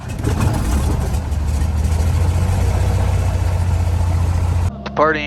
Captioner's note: Skylane's engine starts